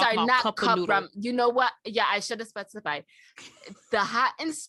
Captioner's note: wheezing